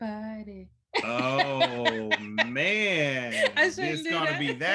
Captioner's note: laughs